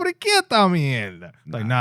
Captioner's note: speaking In Foreign Language